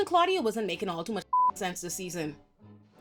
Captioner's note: beep